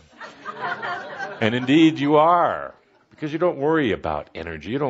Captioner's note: laughter